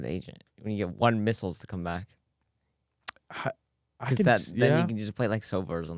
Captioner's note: sighs